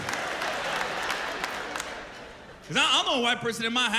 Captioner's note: laughter